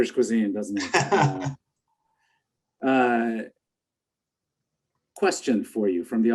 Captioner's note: laughing